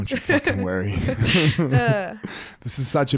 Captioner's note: laugh